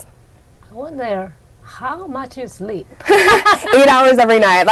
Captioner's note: laughs